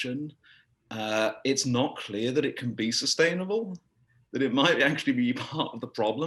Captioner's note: laugh